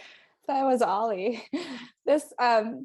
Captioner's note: chuckles